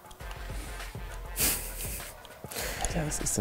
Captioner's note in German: Schmunzeln